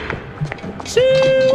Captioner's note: hooting